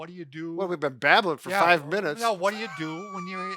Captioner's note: laughing